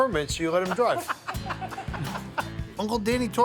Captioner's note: laughing